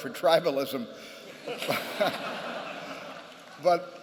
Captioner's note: laughter